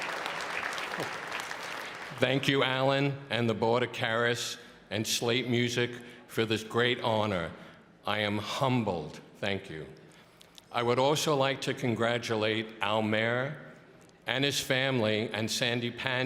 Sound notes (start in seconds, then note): 2.8 applause